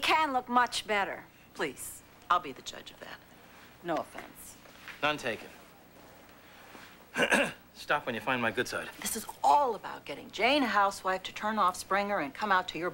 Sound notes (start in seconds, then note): 7.1 clears throat